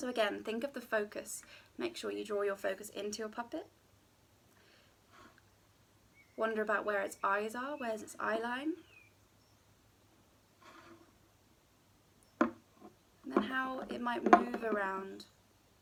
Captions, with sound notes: Again, think of the focus, make sure you draw your focus into your puppet, wonder about where its eyes are, where is its eye line? (can scraping and plunking) And then how it might move around.